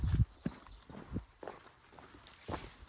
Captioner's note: footsteps